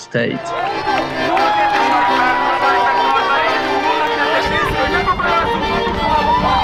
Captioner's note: energizing music; participant cheering